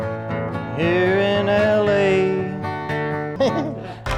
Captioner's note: chuckles